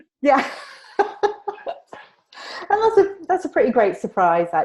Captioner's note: laughing